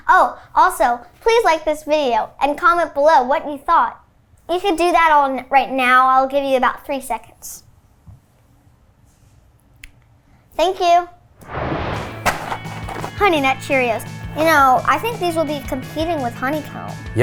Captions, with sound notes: Oh also, please like this video, and comment below what you thought. You should do all that right now, I'll give you about three seconds, thank you. (animated explosion booming) (cereal box thudding) Honey Nut Cheerios. You know, I think these will be competing with Honey Comb.